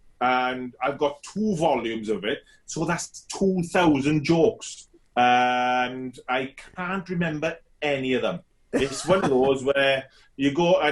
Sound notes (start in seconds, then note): 8.7 laughs loudly